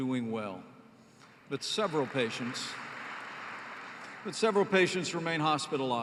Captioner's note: applause